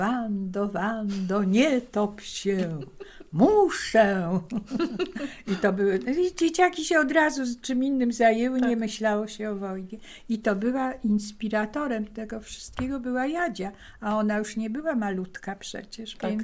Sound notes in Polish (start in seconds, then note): 4.5 śmiech